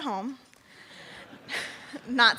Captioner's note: laughing